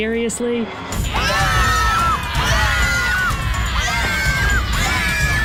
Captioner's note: screams